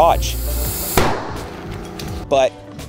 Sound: loud pop

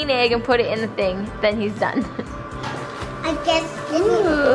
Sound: laughs

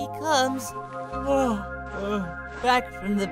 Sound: yawn

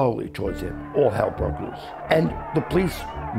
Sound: crowd yelling

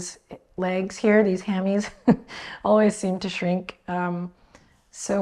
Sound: chuckles

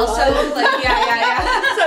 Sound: laughter

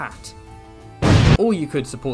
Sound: boom

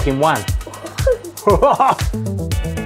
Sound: both make excited sounds

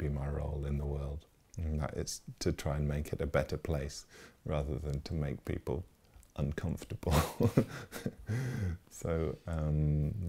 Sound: laughs

